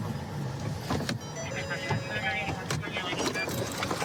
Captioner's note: car door chiming